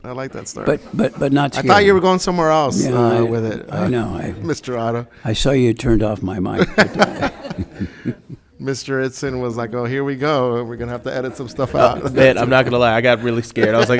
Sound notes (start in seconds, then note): 6.5 committee members laughing